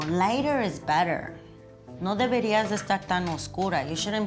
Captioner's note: spanish